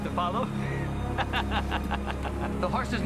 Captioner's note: laughing